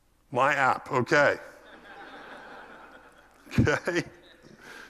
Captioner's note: laugh